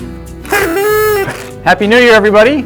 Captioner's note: honk